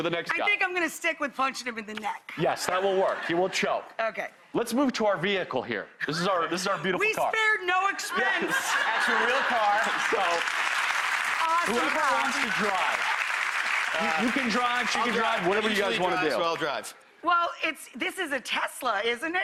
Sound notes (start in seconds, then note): 8.1 audience laughs; 14.1 audience applause